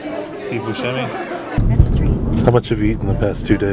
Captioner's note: laughs